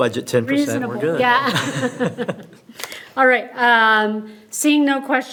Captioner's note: laughs